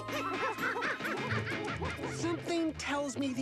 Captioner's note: binipinardians giggle